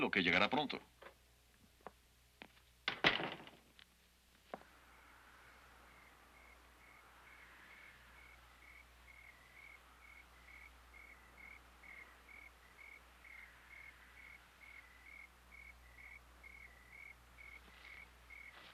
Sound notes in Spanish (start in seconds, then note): 2.9 sonido de puerta; 4.9 canto de grillo